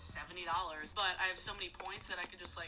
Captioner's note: kissing sound